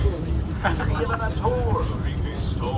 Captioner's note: laughs